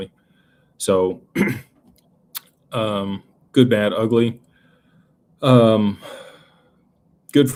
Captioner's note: clears throat